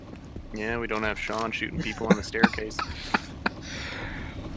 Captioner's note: laughs